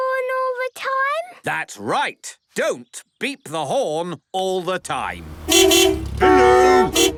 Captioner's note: beeping